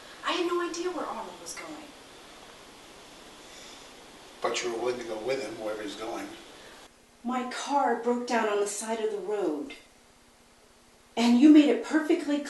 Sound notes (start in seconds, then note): none